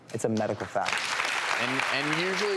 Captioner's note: applause